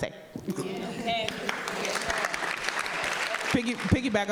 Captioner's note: audience applauding